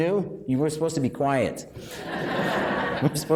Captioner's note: laughing